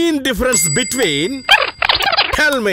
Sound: mumbling

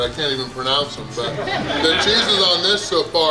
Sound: people laugh

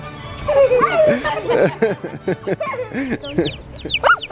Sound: laughs; bird chirps

